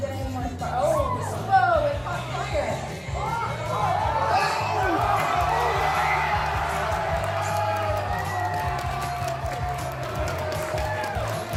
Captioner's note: crowd cheering